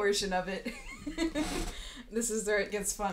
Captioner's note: laughing